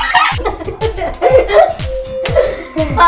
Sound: lauging

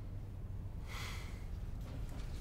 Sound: he sighs

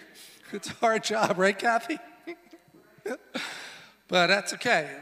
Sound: laughs

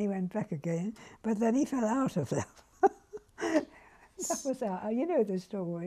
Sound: laughs

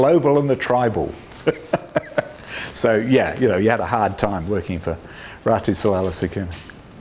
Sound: laughs

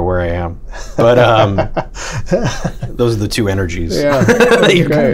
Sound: laughter

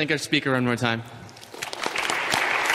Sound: audience claps

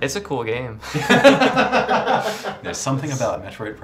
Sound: laughing

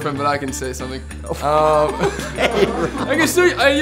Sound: both laugh

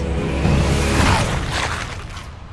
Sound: crunching sounds

